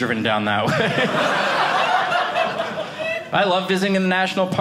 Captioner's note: audience laughing